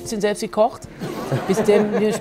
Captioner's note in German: Lachen